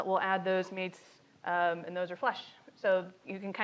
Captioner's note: none